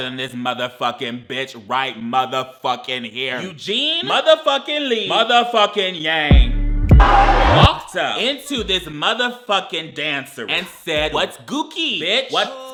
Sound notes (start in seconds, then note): 6.3 soft electronic music; 7.0 people shout